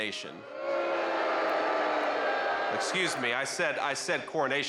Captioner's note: crowd boos